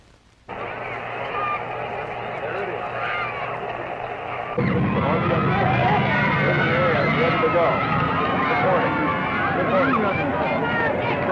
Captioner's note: crowd noise, cheering